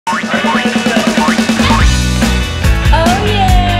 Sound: spring noises

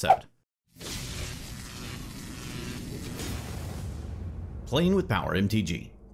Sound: electricity buzzing

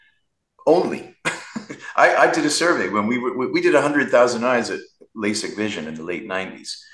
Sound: chuckles

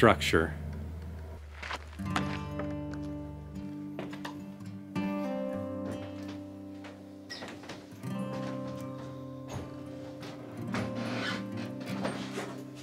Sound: footsteps and music

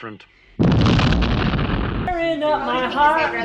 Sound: explosion; singing

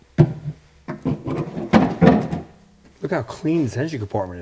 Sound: carburetor thudding

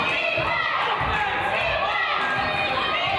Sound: claps

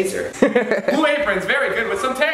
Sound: laughs

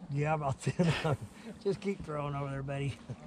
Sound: chuckling

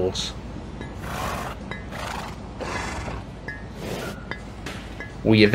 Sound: horse snorting and nickering

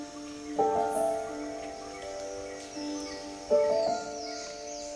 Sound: gentle piano music playing; birds chirping

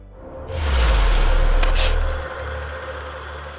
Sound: whooshing

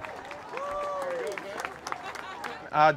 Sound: crowd cheering

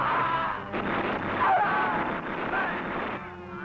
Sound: guns firing

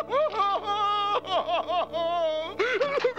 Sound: sobbing

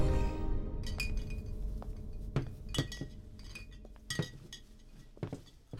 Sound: wine Bottles Clinking

